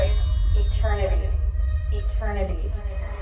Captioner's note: echoes; musical trill; echoes